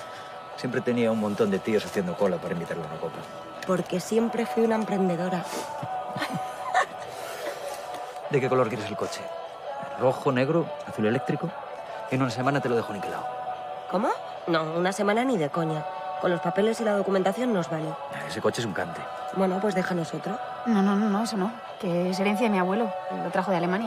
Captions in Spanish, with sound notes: Siempre tenía un montón de tíos haciendo cola para invitarla a una copa. Porque siempre fui una emprendedora. (Risas) ¿De qué color quieres el coche? ¿Rojo, negro, azul eléctrico? En una semana te lo dejo niquelado. ¿Cómo? No, una semana ni de coña. Con los papeles y la documentación nos vale. Ese coche es un cante. Pues déjanos otro. No, no, eso no, que es herencia de mi abuelo, lo trajo de Alemania.